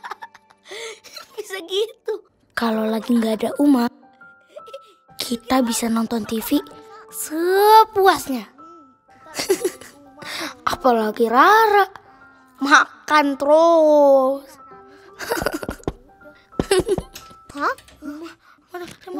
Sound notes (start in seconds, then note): 1.4 laughing